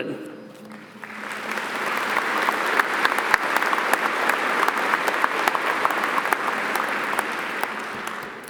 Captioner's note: audience applauding